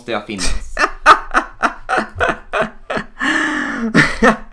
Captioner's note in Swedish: Skrattar